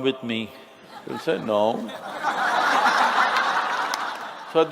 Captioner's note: laughter